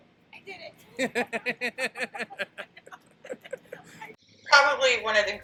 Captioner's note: both laughing